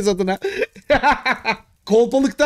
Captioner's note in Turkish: gülüşmeler